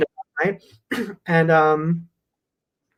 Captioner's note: coughs